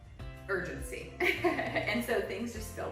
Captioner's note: laughs